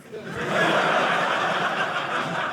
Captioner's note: audience laughing